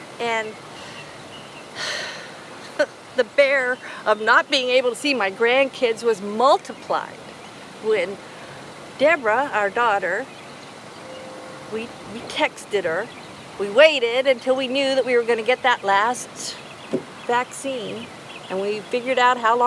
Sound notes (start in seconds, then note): 0.0 birds chirping; 1.8 sighs